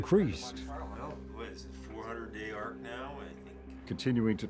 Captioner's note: team chattering